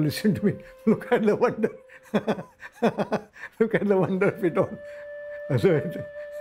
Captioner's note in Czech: smích